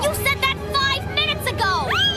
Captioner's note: shriek